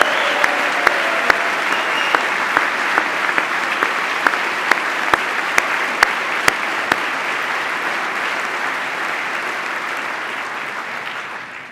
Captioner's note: applause